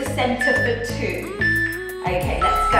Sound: timer beeping

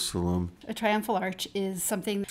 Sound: voiceover

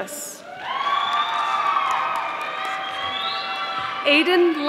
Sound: audience applauding

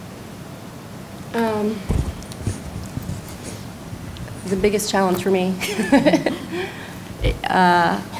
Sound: laughter

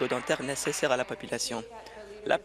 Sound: applause

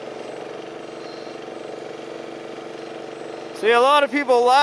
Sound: engine roaring

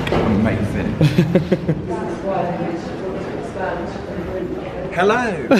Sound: chuckles

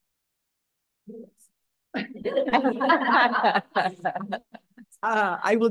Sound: laughter

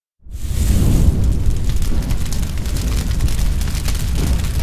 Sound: flames roaring

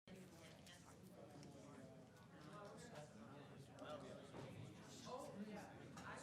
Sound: members chatter in the background

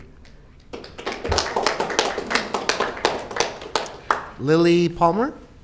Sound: audience clapping

